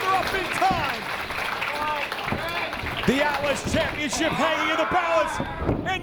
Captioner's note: applause